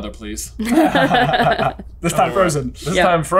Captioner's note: all chuckle